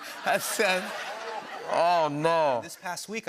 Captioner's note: laughter